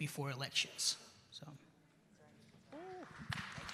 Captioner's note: applause